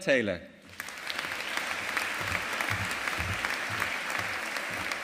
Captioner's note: audience applauding